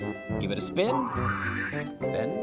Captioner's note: whoosh!